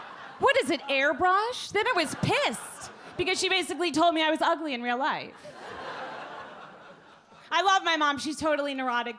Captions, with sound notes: What is it, airbrushed? Then I was pissed because she basically told me I was ugly in real life. (audience laugh) I love my mom. She's totally neurotic.